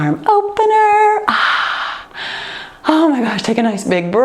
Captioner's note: sighs